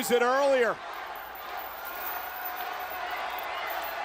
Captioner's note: crowd chanting